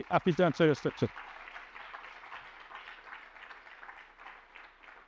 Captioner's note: applause